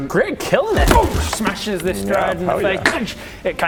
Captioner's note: boof